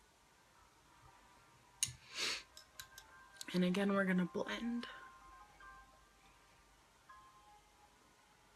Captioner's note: sniffs